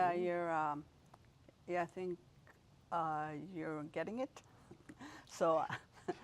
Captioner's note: rires